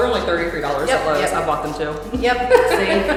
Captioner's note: laughs